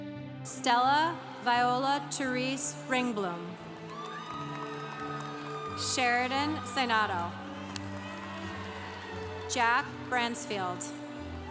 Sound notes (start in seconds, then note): 3.6 congregation cheering; 11.1 congregation cheering